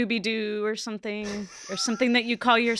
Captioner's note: laughs